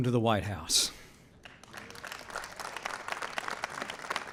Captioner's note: applause